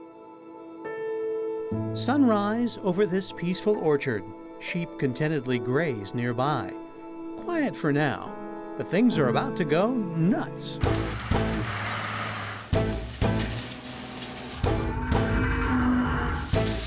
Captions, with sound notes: Sunrise over this peaceful orchard. Sheep contentedly graze nearby. Quiet for now, but things are about to go... nuts! [Loud machinery noises]